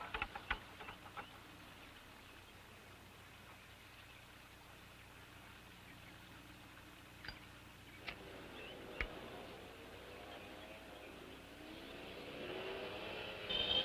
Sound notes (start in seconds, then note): 9.3 rumble approaching